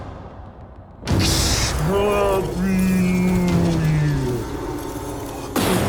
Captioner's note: imitates explosion in slow motion